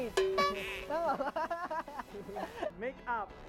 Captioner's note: laughs; laughs more